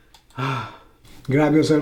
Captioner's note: exhales